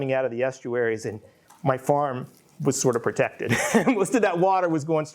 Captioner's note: laughs